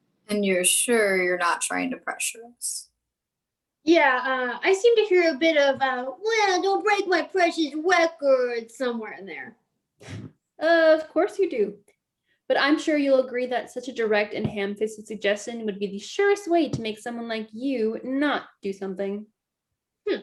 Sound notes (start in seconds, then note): 10.5 scoff